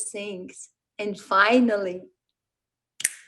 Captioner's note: snaps fingers